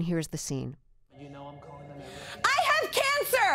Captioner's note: soundbite of tv show, "i love that for you"